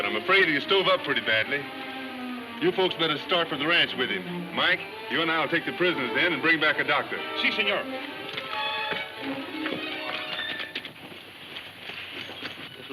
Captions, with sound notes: - Well, he's still breathing but I'm afraid of he's tore up pretty badly. You folks better start for the ranch with him. Mike, you and I will take the prisoners then and bring back a doctor. (speaking foreign language) (ominous music playing)